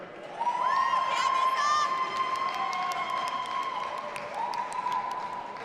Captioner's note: audience applauding and cheering